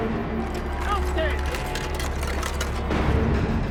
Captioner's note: shouting